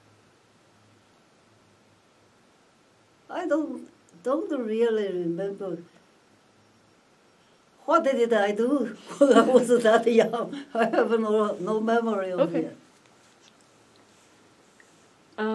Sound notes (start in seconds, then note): 9.0 laughs